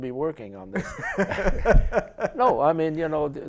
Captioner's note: laughter